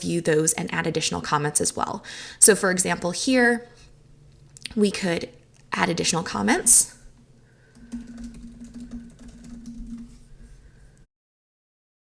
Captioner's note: typing